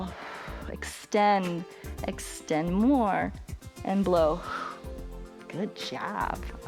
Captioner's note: exhales; short exhale